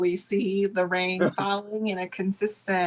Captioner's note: laughs